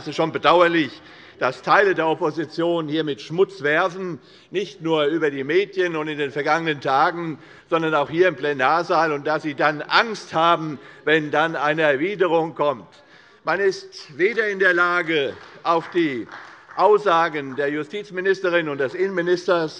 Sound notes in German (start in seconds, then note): 14.2 Beifall bei Abgeordneten der CDU